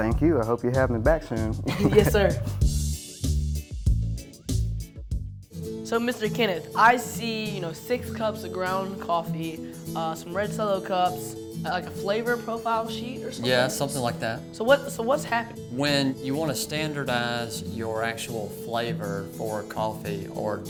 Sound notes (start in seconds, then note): 1.6 chuckling